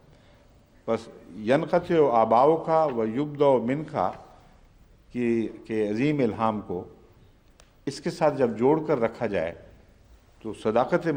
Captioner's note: Arabic